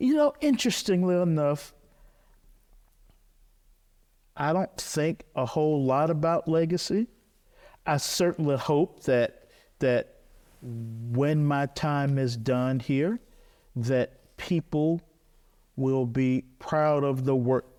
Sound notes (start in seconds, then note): none